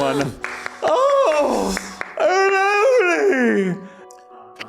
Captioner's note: gasps and claps